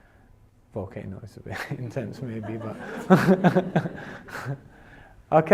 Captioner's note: laughs